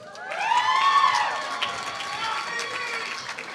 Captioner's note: applause